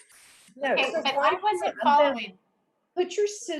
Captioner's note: laughs